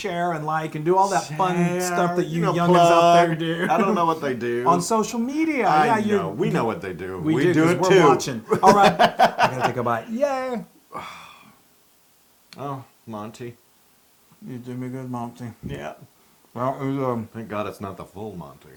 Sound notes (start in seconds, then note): 7.4 laughs